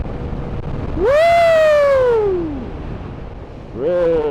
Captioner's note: a whoop of joy